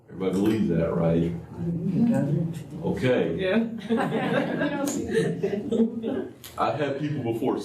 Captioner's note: laughter